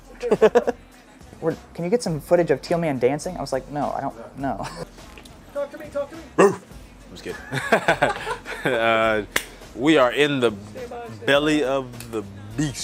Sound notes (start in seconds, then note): 6.3 man barking; 7.4 laughing